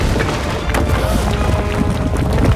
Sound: gasping

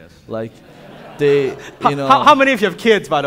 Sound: audience laughing

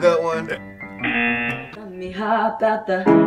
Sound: buzzer sounds

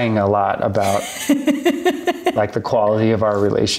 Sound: laughs

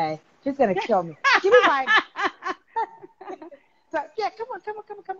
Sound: laughing

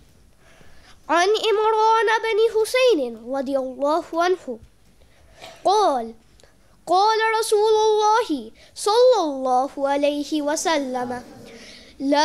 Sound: Arabic

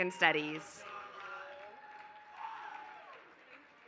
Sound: applause

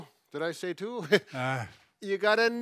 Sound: laughs

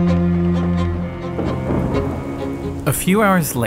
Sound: dramatic music; thunder rumbles

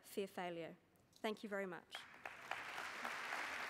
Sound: applause

